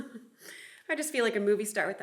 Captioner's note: chuckles